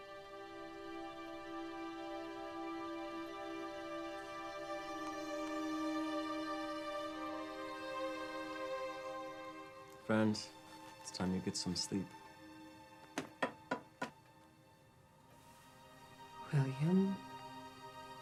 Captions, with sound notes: (somber orchestral music) - Friend, it's time to get some sleep. (cane tapping) - William,